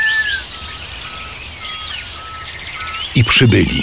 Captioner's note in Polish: śpiew ptaków; odgłosy dzikich zwierząt w tle